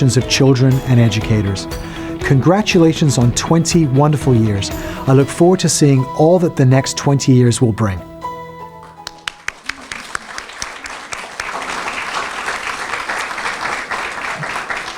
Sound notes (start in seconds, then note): 8.8 applause